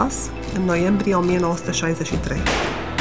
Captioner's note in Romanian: focuri de armă